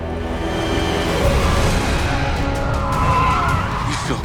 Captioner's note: tires screeching